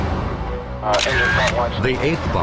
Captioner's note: radio chattering